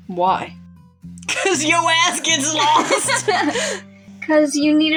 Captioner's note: laugh